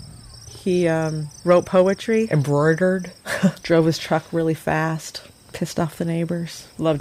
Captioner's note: laughs